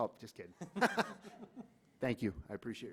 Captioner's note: laughter